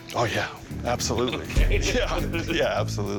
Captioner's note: chuckles